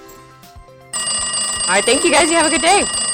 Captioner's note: bell ringing